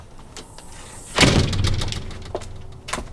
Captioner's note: door closes